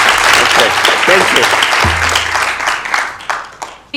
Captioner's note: applause